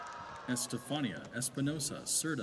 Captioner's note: applause